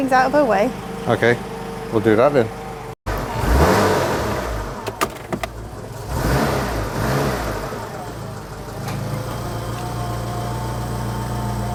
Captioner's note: engine sounds as drives out